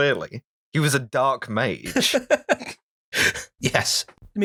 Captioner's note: laughter